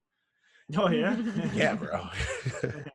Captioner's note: laugh